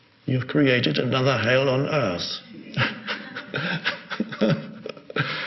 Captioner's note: laughs